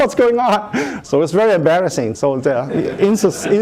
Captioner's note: laughter